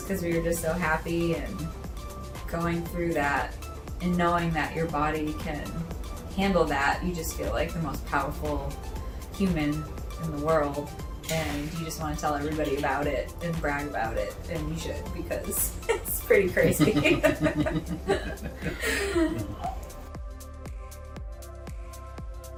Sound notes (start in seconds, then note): 16.5 both laughing; 19.9 gentle music